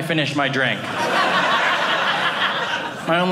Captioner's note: audience laughing